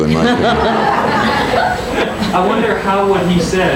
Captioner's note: people laughing